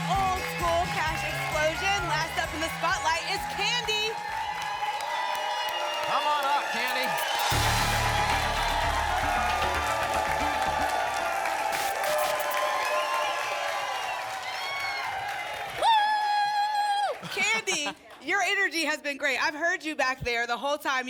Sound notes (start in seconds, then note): 4.3 applause and cheering; 7.0 static; 10.0 applause and cheering cont; 11.7 static; 12.7 applause and cheering cont